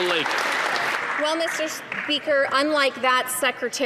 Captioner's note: some Applause